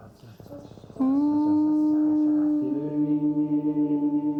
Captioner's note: humming